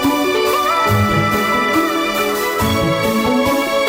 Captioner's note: distorted vocalizing